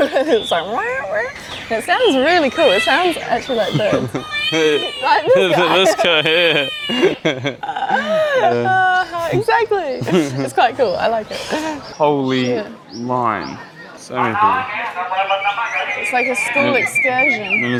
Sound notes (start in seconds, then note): 7.6 laughter